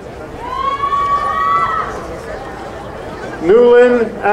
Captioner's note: crowd cheering